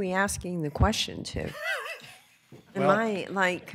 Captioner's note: laughter